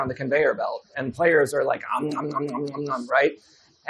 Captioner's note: mimics eating